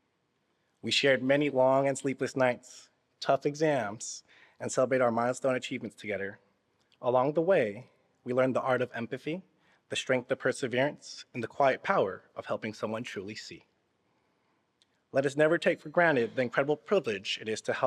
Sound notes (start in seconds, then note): none